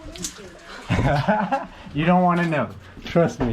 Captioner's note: laughing